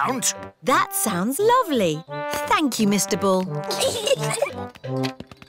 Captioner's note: peppa and george giggle